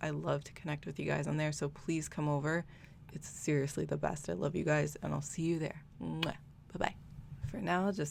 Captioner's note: muah